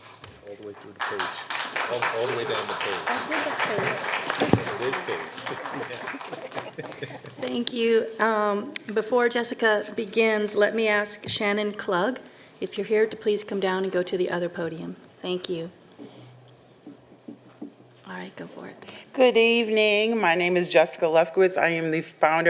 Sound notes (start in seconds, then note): 5.8 applause